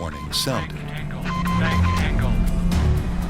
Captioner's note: recorded Voice; sinister music